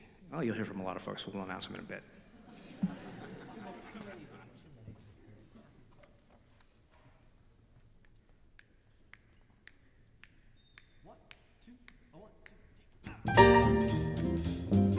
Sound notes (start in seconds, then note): 8.5 conductor snapping